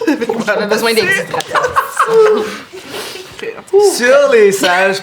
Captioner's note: Chúk and Arielle laugh